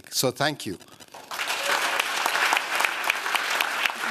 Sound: applause

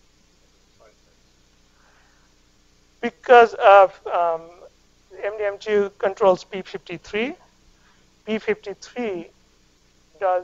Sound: audience member responds

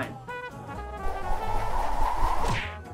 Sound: whooshing newspaper

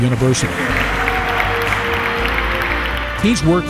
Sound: applause

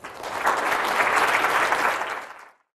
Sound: applause

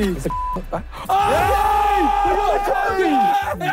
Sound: group exclaiming

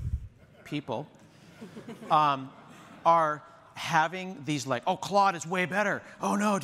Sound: laughter

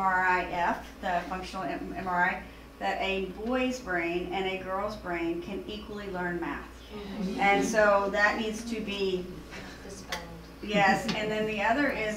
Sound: audience murmur

